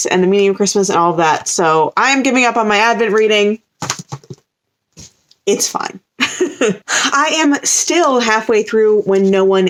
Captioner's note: laughs